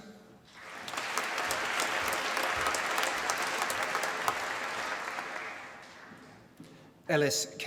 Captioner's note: applause